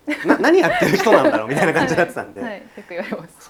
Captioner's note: laughs